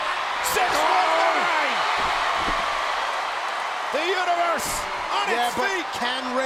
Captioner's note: applause